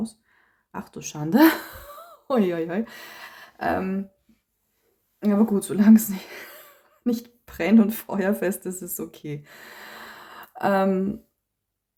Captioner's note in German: gelächter